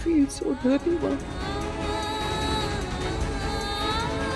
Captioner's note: emotive vocalisation